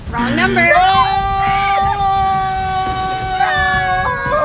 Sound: crowd screams

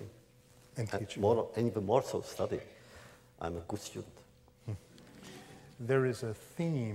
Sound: laughter

